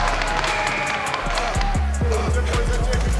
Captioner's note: whistle blows